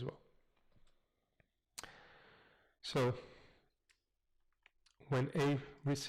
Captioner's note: pause